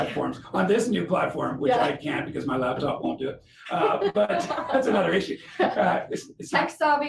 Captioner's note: laughing